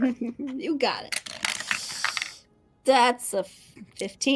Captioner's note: dice rolling